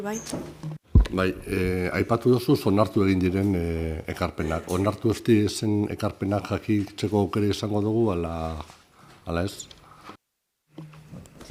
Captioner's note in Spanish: En euskara